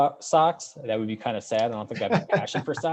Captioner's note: laughing